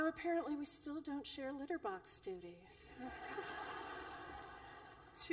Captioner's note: laughter